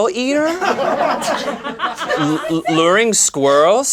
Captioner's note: laughing